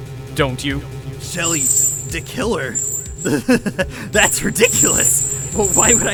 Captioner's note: laughs